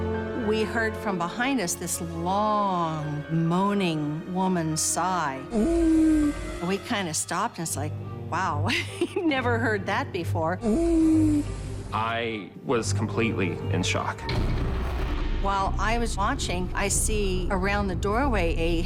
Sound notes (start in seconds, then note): 5.5 moaning; 8.7 laughs; 10.6 moaning